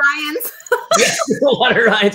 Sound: laughs

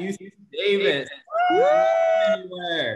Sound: cheering

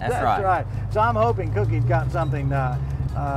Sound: laughs

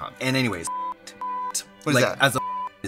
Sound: beep

